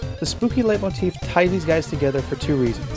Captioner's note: none